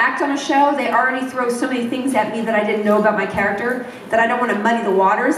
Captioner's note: none